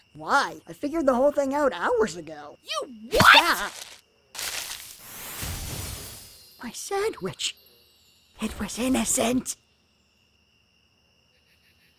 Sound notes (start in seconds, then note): none